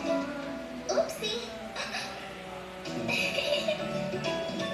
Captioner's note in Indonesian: Tertawa